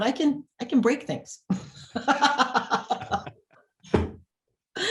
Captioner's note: both laugh